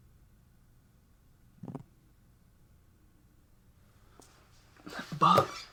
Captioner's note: fingers tapping